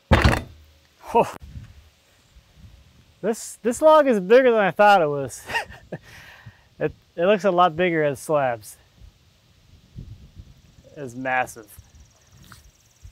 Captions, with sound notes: (wood thuds) Oh. This log is bigger than I thought it was. (laughs) It looks a lot bigger as slabs. It's massive.